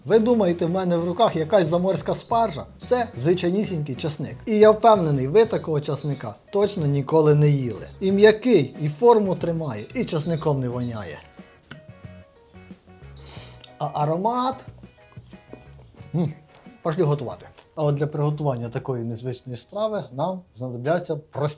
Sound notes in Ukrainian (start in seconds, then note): 13.0 сопіння